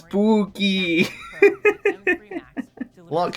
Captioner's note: laughs in spoopy set dressing